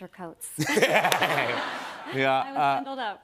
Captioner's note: laughter